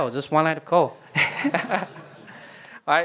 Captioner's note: laughter